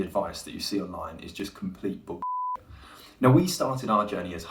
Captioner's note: beep